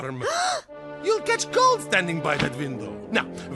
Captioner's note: gasps